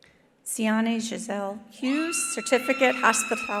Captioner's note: attendees cheering